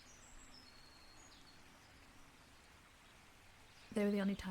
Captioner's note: birds continue chirping